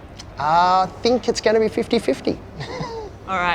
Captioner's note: chuckles